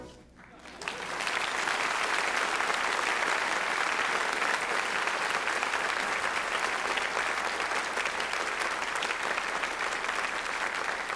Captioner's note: applause